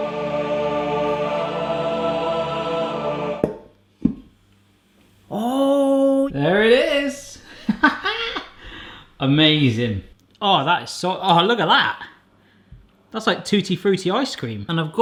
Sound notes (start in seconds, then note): 0.0 powerful music; 7.6 laughs